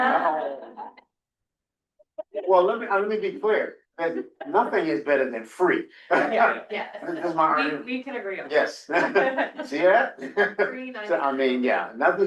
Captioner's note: laughter